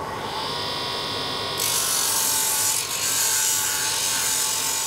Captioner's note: shrill grinding noises